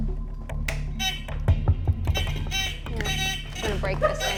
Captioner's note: hooter buzzing